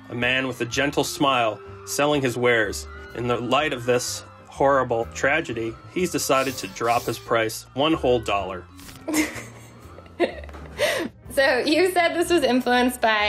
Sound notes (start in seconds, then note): 9.1 laughs